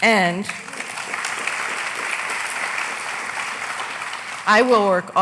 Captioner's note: applause